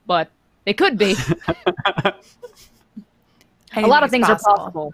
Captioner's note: chuckling